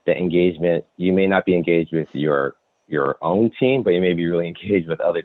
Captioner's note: giggles